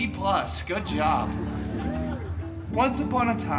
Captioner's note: guests chuckling